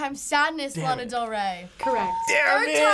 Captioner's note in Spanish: ding